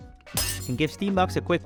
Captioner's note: something breaking